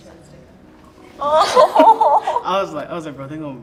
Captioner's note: group laughs